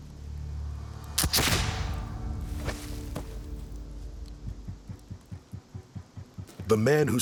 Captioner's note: gunshot